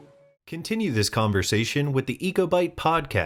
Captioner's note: voiceover